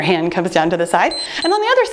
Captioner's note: timer beeps